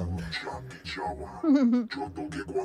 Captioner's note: non-english speech